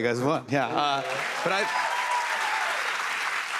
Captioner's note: cheers and applause